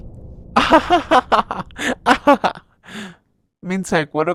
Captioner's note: laugh